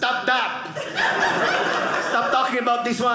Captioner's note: audience laughing